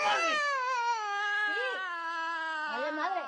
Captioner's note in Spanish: Gritos de la niña